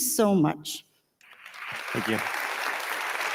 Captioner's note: audience applauding